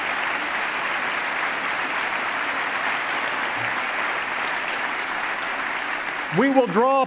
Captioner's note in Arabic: تصفيق